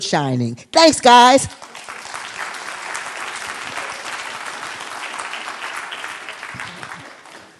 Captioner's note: applause